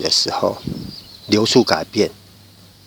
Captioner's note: the air passing through